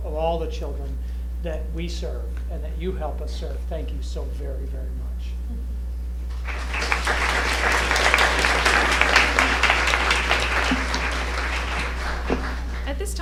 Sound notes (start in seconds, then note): 10.2 applause